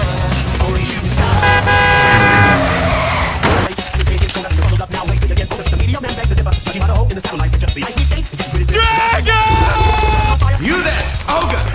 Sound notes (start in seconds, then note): 1.2 loud car yelling